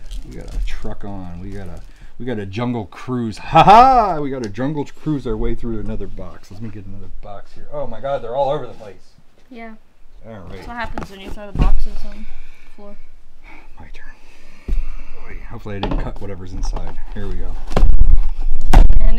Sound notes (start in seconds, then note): 3.4 laughs